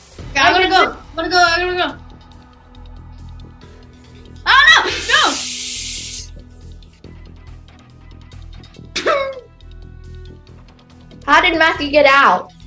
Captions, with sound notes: - Okay, I gotta go, gotta go, I gotta go. - Oh no, no! (water running) (suspenseful music) - How did Matthew get out?